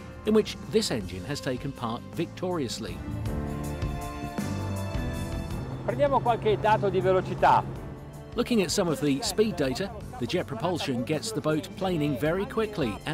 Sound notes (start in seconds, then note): 6.0 host speaks in foreign language; 8.4 voiceover